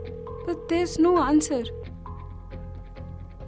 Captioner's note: phone ringing